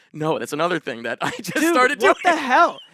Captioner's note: laughs